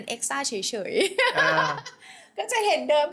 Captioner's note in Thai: เสียงหัวเราะ